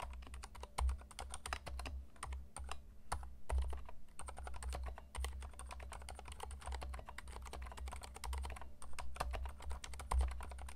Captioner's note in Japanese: 打鍵音